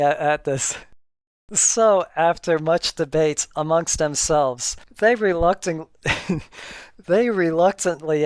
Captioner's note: more laughter